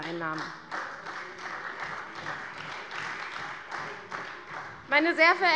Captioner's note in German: Beifall bei der CDU